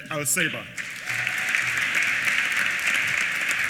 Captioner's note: applause